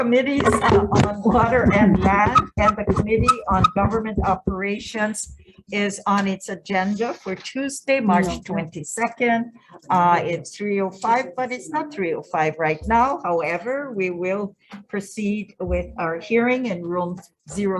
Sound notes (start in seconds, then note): 2.1 mic distortions; 8.8 people murmuring